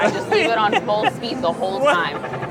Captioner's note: laughs